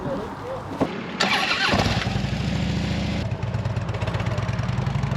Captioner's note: engine starts